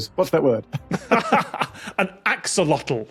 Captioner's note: laugh